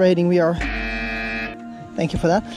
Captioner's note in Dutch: zoemer loeit